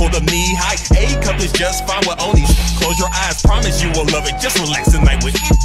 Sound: shhhsh

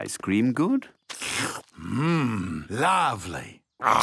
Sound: slurps

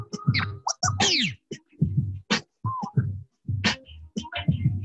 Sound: record scratching

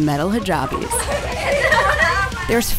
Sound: girls laughing

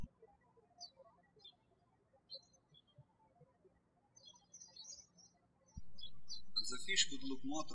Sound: birds chirping

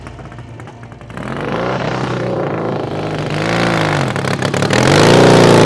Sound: motorcycle engine revving

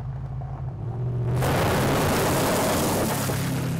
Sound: engine roars

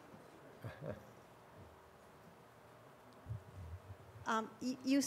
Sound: light laughter

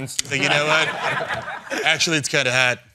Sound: laughter

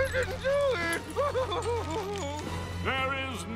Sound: sobbing

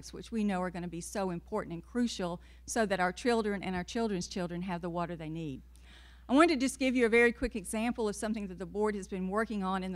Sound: none

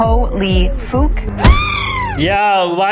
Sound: crappy girl scream

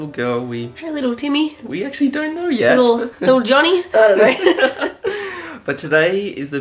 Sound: laughter

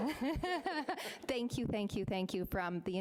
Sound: laughing

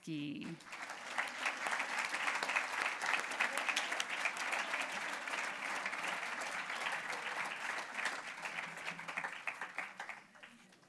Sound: applause

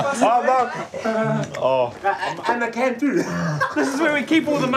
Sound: laughs

